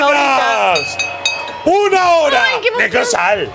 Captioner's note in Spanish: Campanas